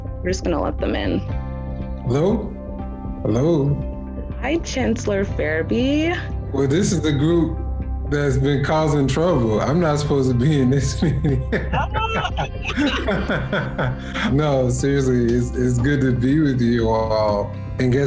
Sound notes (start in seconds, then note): 10.8 group laughing